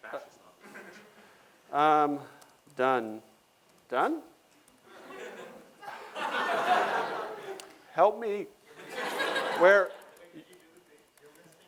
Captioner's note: laughter